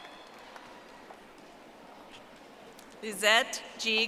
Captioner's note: audience applauding